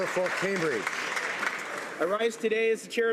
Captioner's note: applause